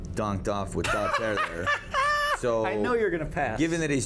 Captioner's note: laughs